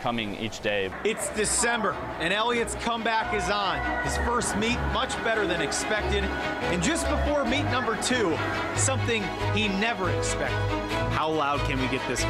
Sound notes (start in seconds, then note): 6.7 cheers